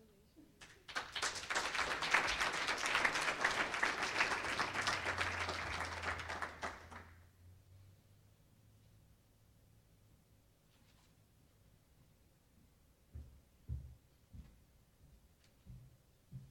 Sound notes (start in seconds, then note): 0.6 applause